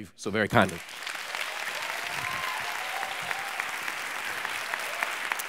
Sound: audience applause

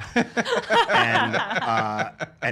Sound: laughter

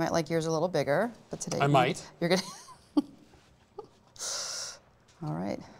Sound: laughs

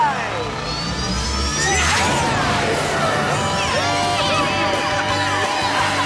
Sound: cheering

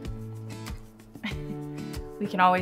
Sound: laughs

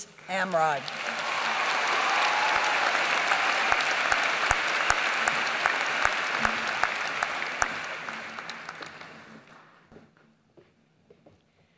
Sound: applause

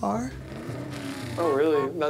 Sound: car vrooms

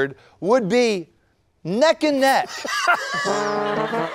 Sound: laughter / Music

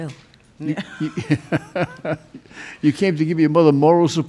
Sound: judge laughing

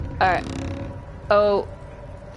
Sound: distant monster noises

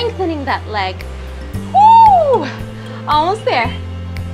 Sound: groans

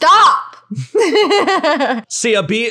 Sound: laughing

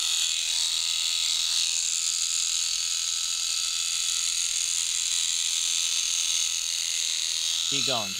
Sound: shears buzzing

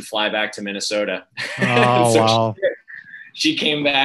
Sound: laughs

